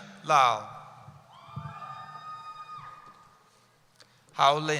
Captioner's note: cheering